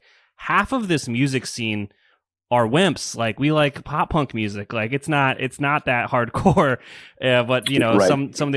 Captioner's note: laughs